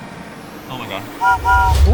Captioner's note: train whistle blowing